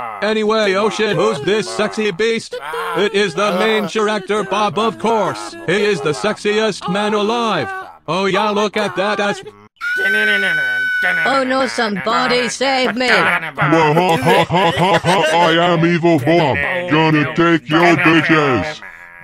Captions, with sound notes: Bob:aNyWay, oH sHet! WhO's DiS Sexy bEaSt?! Bob:It iS ThE MaIn cHiReCtOr, BoB, oF CoUrSe! Bob:hE iS tEh SeXiEsT MaN AlIvE! Bob:o, yEaH, lOoK aT dAt aSs *someone scream* Girl:o, nO, sOmEbOdY, sAvE mE! Evil Bob:*evil laugh* Evil Bob:I aM EvIl bOb! Evil Bob:GoNnA tAkE YoUr bitCh AsS!